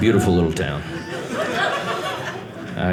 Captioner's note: audience laughing